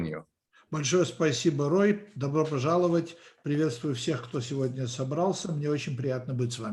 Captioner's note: translator speaking Russian language